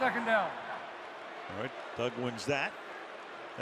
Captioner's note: booing